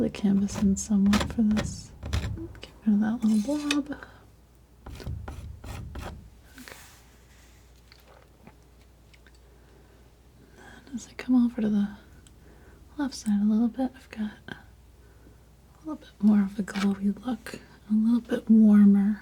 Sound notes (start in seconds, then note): 4.8 scratching